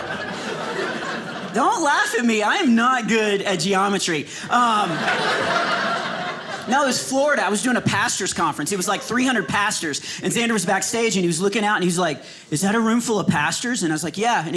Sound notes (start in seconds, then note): 4.4 audience laughing